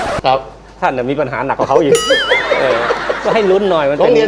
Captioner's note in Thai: เสียงหัวเราะ